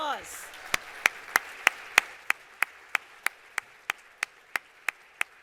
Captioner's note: applause